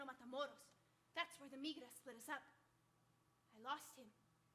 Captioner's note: speaking Spanish